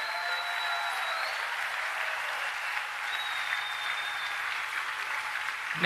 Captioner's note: applause